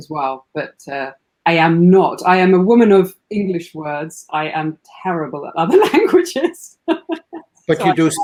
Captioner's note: laughs